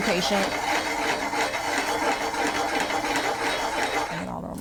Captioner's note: pan scraping